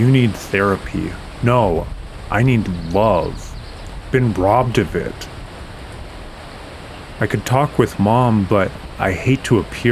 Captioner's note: weeping